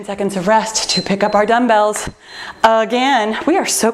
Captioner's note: timer beeps